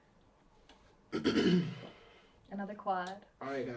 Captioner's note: clears throat